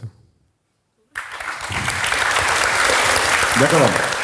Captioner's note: audience cheers